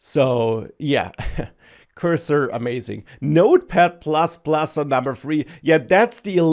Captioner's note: laughs